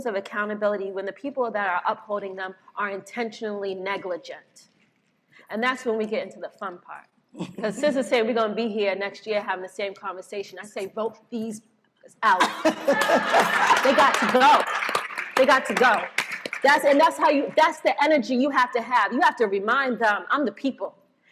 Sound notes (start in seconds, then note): 12.4 laughs; 12.8 applause